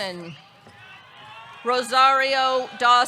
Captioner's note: audience cheering